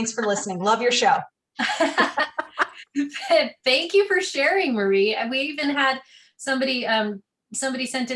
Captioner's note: laughter